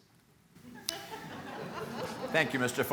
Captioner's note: laughter